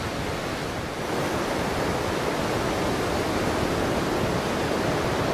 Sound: waves crashing

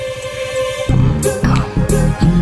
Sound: none

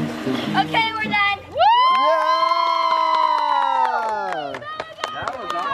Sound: all cheering

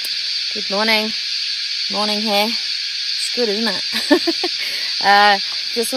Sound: laughs

